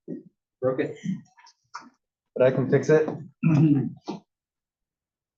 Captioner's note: cough